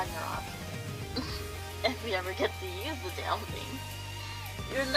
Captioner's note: chuckle